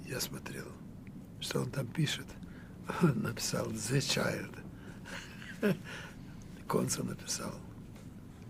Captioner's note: laughing